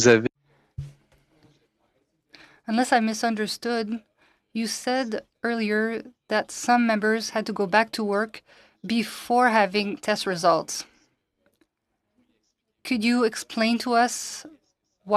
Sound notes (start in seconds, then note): 8.8 speaking French